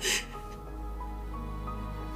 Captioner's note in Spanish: Sollozos